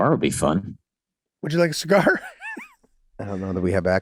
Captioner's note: Charlie laughing happily